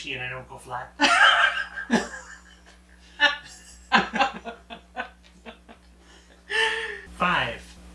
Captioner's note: both laughing